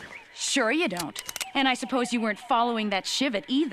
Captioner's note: crossbow cocking